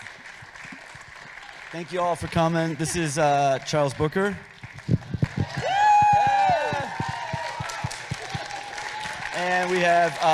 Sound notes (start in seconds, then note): 0.3 audience applauding; 5.0 audience cheering